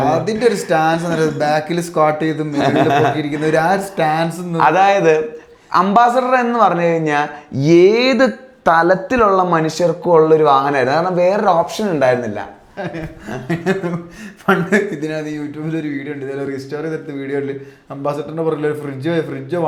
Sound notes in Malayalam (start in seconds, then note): 12.8 പൊട്ടിച്ചിരി